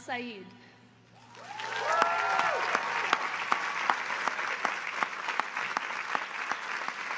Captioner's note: audience applauding